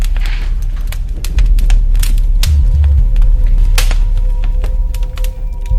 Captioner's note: fire crackles; tense music